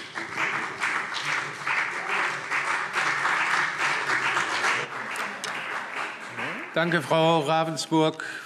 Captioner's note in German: Beifall CDU und BÜNDNIS 90/DIE GRÜNEN